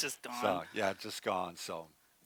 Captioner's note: laughs